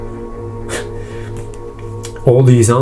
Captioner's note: scoffs